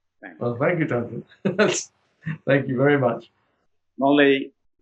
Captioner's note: laughs